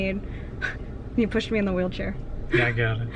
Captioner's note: laughs